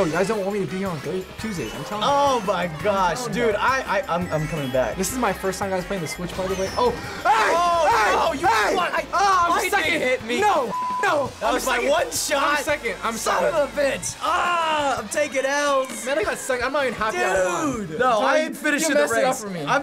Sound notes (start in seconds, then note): 14.6 groans